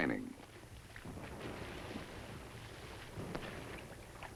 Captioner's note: booming